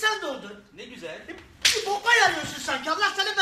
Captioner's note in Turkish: şaplak